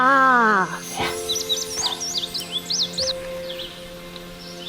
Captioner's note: birds chirping; gentle music